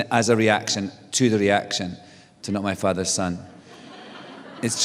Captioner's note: laughter